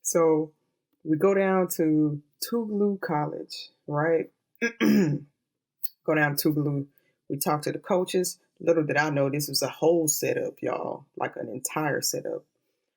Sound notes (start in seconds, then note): 4.7 clears throat